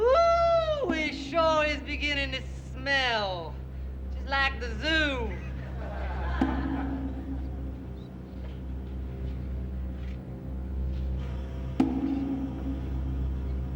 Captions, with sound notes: Ooh, it sure is beginning to smell, just like the zoo. (patrons laughing) (ominous music)